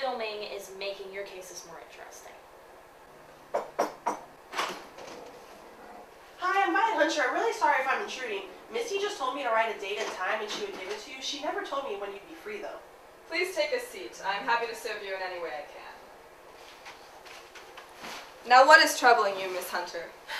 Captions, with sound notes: is making your cases more interesting. [knock on door] [door opening] -Hi, I'm Violet Hunter, I'm really sorry if I'm intruding Missy told me to just write a date and time and she would give it to you she never told me when you'd be free though. -Please take a seat, I'm happy to serve you in any way I can. Now what is troubling you, Miss Hunter?